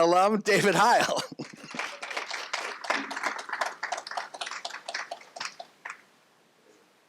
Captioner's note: crowd applauses